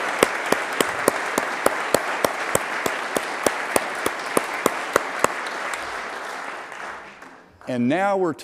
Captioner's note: applause